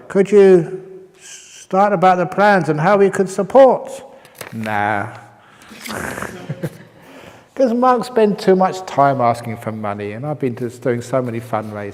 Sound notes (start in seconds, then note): 5.6 chuckle